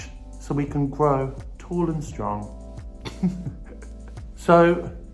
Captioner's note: laughing